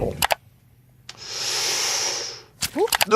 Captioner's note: mouse clicking; Jordan inhaling